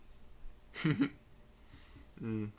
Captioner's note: chuckles